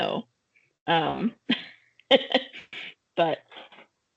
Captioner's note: chuckling